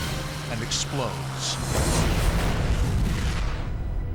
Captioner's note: explosion